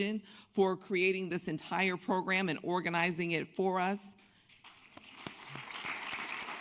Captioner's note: applause